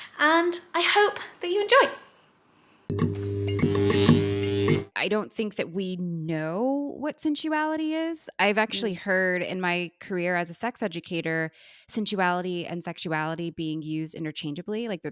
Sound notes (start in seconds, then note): 2.9 electricity buzzing